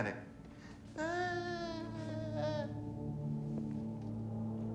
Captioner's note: melodramatic wailing